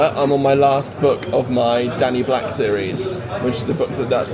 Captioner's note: none